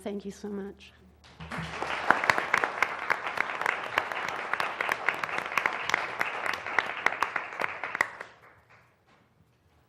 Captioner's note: applause